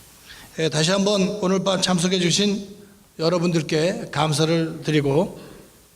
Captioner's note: speaking in foreign language